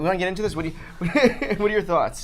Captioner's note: laughs